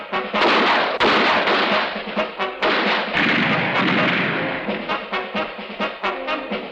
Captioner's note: guns firing; dramatic music continues